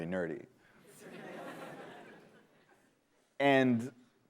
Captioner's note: laughter